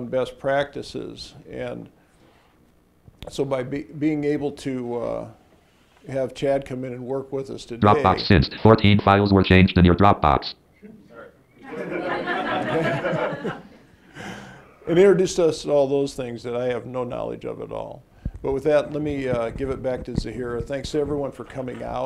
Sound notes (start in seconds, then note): 8.7 computer voice in background; 12.0 audience laughs